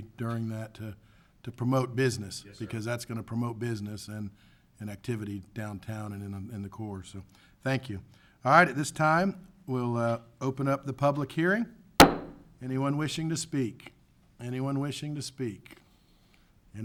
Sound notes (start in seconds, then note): 12.0 gavel taps